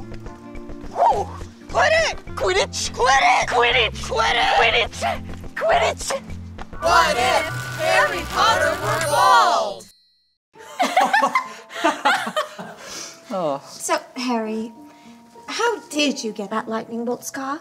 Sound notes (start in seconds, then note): 11.8 Harry and Hermione laughing